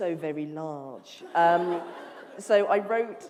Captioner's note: laughter